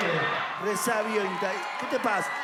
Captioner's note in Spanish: Vítores